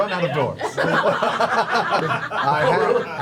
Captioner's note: laughter